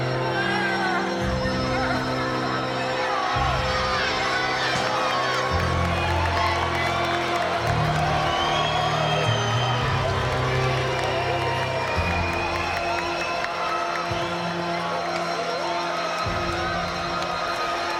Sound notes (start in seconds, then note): 2.7 crowd cheering; 2.7 eerie music